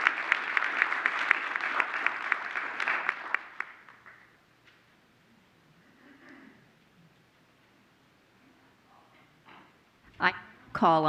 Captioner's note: applause